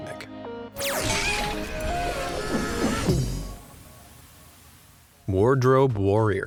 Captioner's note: melodious instrumental music; screams